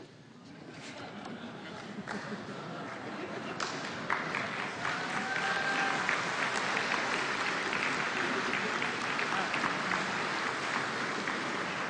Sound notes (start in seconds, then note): 0.7 laughter; 5.3 applause